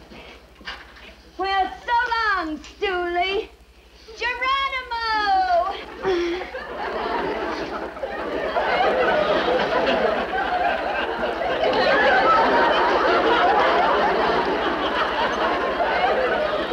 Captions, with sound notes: Well, so long stoolie. Geronimo! (audience laughs)